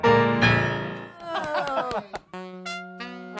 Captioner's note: cheers and applause